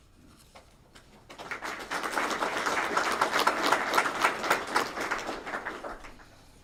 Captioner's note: applause